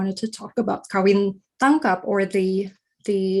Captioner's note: speaking in foreign language